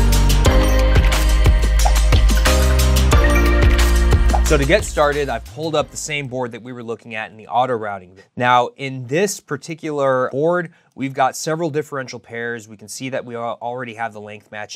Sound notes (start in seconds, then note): 1.6 graphic pops